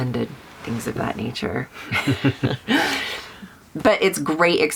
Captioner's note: laughing